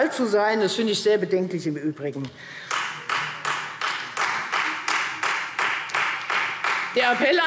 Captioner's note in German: Beifall Freie Demokraten